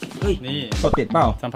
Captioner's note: Pat